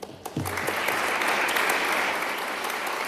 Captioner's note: applause